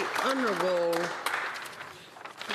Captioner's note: some Applause